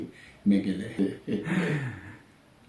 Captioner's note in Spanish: risas